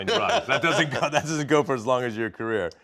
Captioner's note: both laugh